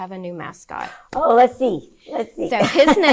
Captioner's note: laughs